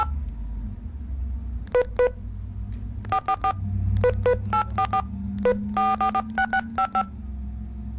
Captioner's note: buttons beeping